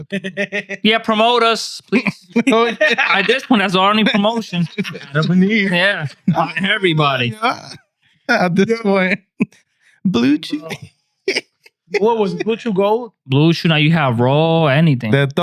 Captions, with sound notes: Yeah, promote us, please. By this point, that's the only promotion. (Laughing) Yeah, everybody. Yeah. Blue Chairs. What was it, Blue Chairs? Blue Chairs, now you have roll, anything.